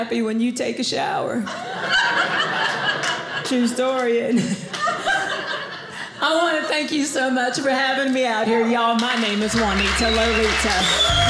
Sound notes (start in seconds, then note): 1.5 audience laughing